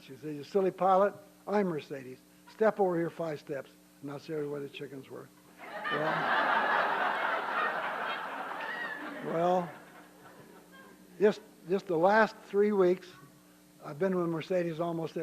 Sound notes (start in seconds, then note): 5.6 laughter